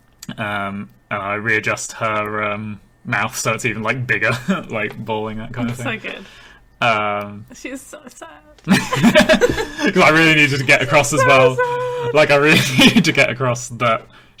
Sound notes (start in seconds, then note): 8.6 laughing